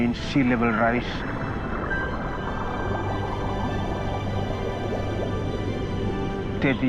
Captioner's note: natural sounds continue